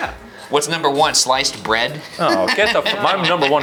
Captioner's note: laughs